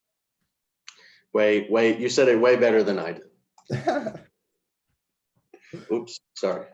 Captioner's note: giggles